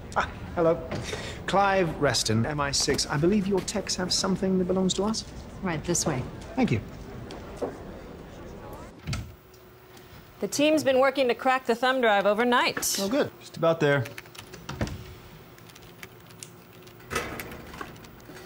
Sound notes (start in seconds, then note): 0.1 mimicking british accent; 15.6 keyboard clacking